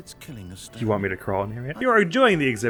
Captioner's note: suggestively